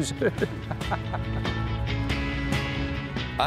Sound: laughter

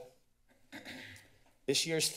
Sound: clears throat

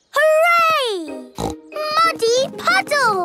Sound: snorting

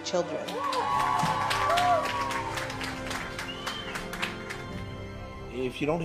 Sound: cheering

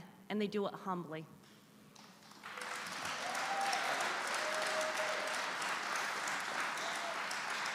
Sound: applause

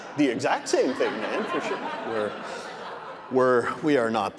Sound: audience laughing

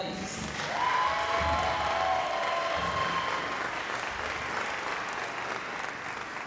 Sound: applause

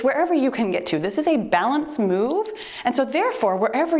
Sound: timer beeps

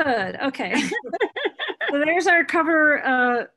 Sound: laughing

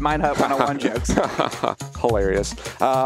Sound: laughs

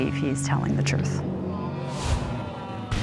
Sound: audience groans

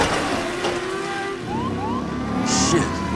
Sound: police sirens

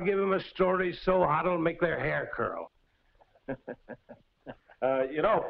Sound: laughs

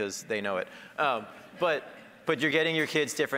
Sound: audience laughing

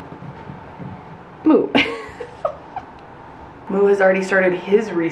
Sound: laughs

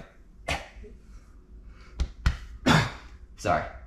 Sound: coughs

